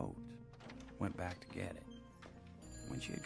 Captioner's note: phone ringing in background